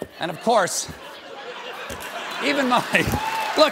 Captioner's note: laughter